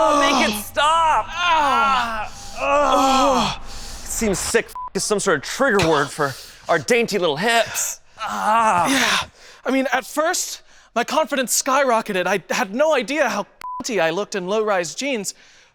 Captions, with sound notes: - Make it stop! (men groaning) It seems sick (beep) is some sort of trigger word for our dainty little hips. (groans) - Yeah, I mean, at first, my confidence skyrocketed. I had no idea how (beep) I looked in low-rise jeans,